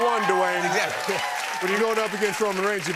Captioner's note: cheers and applause